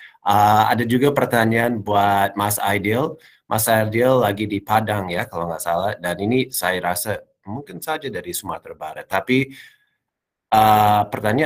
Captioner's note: non-english speech